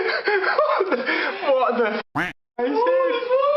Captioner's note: quacks